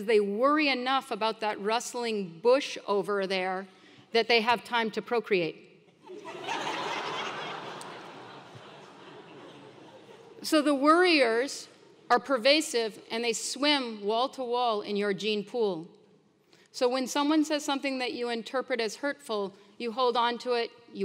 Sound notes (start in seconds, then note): 6.1 laugh